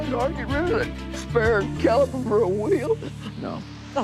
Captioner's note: sobs